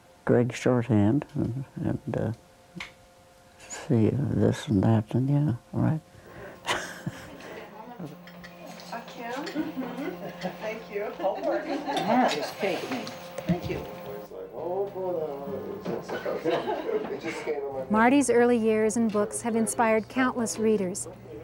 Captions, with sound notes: grade short hand and see this and that and you know, right? (laughs) (murmuring) - Thank you. (laughter) (murmuring) - [Voiceover] Mardy's early years and books have inspired countless readers,